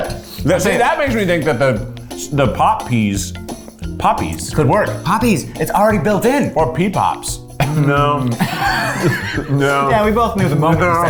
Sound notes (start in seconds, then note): 7.6 both laugh